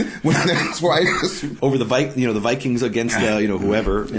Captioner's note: coughs; laughing